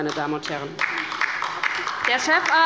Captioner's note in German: Beifall bei der LINKEN